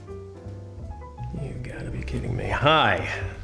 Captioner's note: muttering